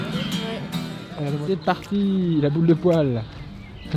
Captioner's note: laughs